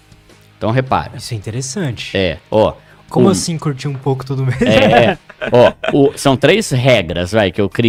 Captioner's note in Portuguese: risadas